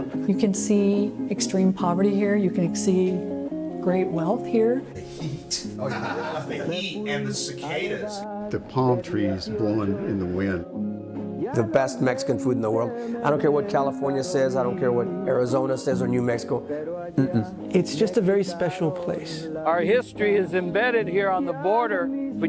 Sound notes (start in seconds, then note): 5.0 men laughing